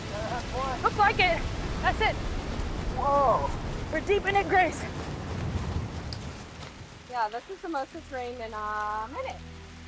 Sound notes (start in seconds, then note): 2.2 wind whips